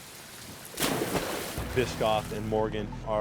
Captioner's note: water splashes